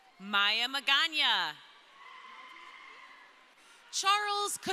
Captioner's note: crowd cheering